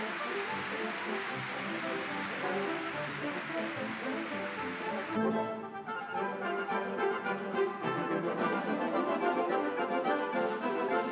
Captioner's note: applause